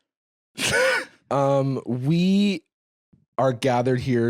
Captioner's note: laughs